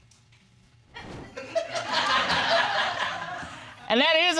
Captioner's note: laughter